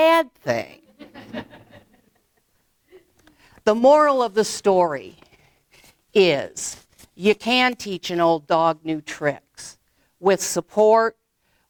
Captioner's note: audience laughs